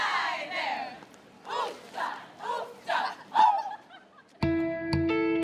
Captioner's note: women chanting